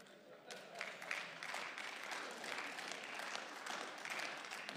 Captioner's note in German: Beifall